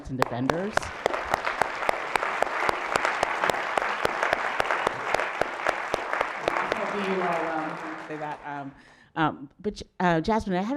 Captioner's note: applause